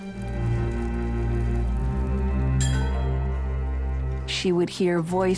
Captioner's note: fire blazing; metal clanging